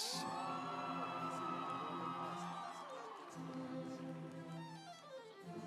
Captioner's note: audience cheering; instrumental music